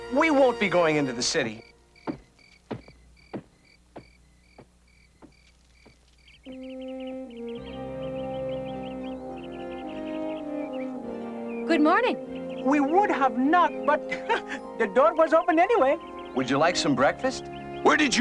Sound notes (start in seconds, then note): 1.9 footsteps fading away; 9.2 birds tweeting